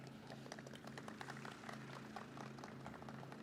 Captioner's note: audience claps